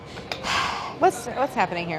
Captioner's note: sighs